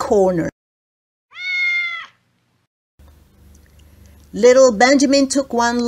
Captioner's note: sound of meoowing cat